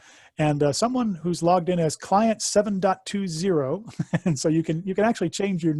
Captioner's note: laughs